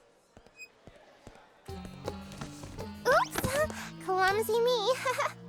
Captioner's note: weak laugh